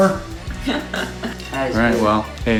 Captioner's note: shouts; laughing